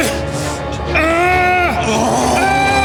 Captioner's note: suspenseful music; Siegmund groaning